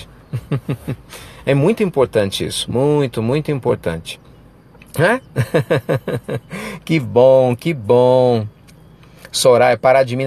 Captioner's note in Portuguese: risos